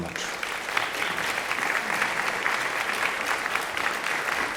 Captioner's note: audience applauding